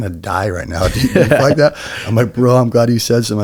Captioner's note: laughs